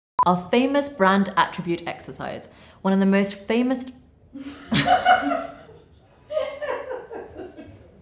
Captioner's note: laughter